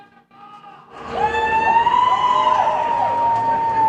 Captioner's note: audience cheers